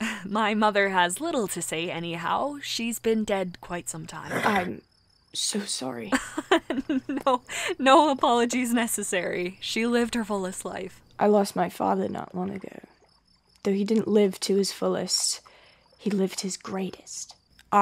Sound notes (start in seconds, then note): 6.2 laughs